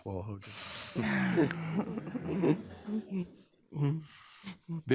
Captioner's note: people laughing